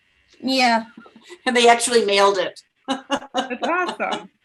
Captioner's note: laughs